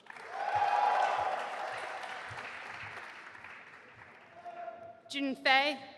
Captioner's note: audience applauding and cheering